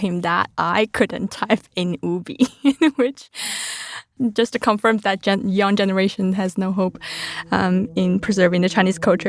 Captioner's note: laughs